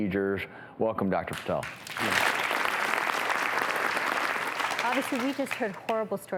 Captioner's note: audience applauding